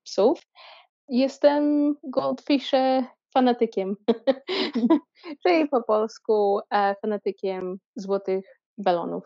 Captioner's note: explains in Polish